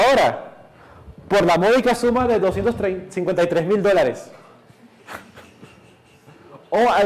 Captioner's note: giggles